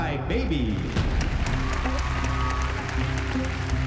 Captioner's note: applause